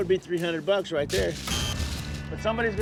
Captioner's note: buzzer blares